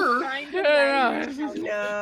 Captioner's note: all groaning